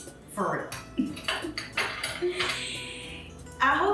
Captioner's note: giggling